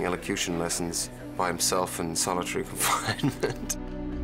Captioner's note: chuckles